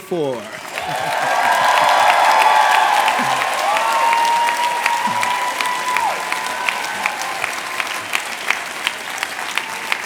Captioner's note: cheers and applause